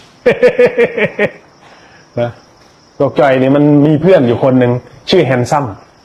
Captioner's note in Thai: เสียงหัวเราะ